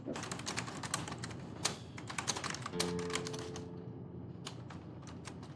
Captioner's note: gentle music; keys clicking